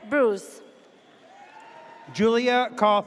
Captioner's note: audience cheers